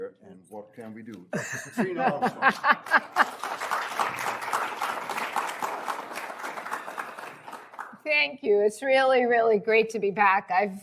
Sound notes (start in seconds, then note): 1.4 laughs; 2.8 applause